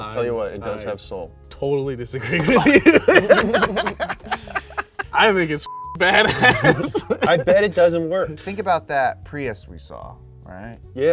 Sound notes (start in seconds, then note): 2.2 all laughing; 5.6 beep; 6.0 laughing